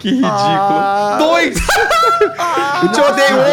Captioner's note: loud laughter